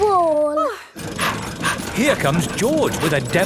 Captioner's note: daddy pig panting